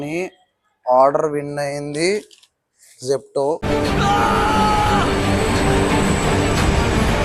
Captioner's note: shouting